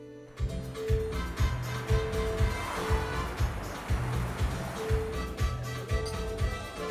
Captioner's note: upbeat island music; people chatter indistinctly